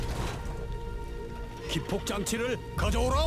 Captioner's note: dramatic music; speaking foreign language